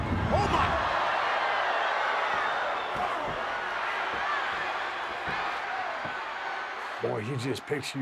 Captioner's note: applause